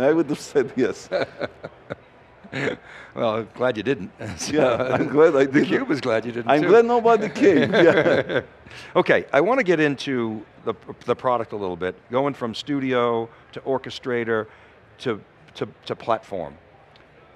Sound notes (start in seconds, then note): 0.3 laughs; 7.1 laugh